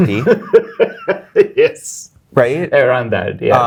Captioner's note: guy laughing